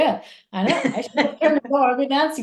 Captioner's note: laughs